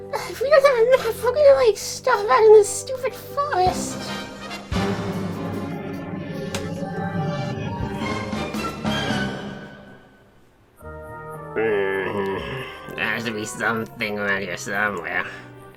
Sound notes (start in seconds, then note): 3.9 title music; 11.5 groaneth